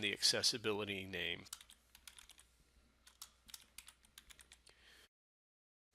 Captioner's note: sound of typing